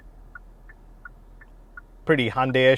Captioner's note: indicator ticking